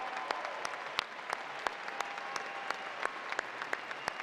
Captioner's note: applause